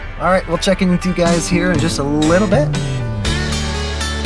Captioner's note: laughing